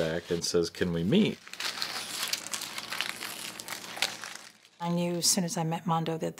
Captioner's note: paper crumpling